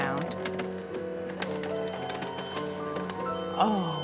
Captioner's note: alarm beeping